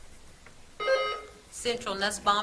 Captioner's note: buzzer trills